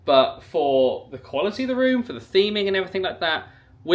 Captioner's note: none